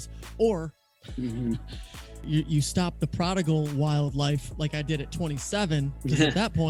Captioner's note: chuckling